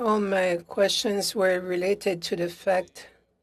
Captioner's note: speaking French